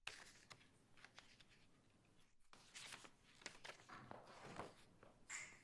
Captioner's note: papers shuffling